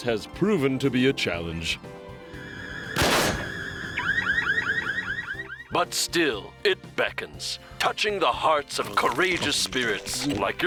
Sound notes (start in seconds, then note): 3.5 alarm beeps